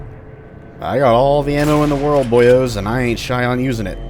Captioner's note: bam